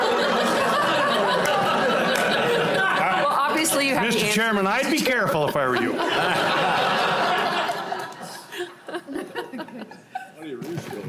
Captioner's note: laughing